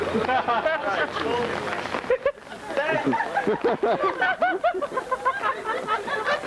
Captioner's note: laughter